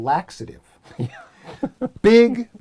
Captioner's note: laugh